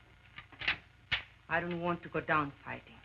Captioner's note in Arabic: نقرات البندقية